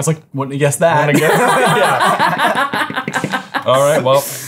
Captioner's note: laughing